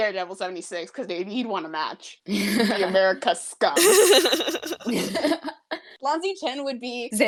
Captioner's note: laughter